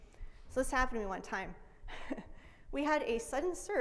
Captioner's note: laughs